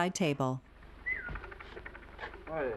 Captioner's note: Norman whistling sharply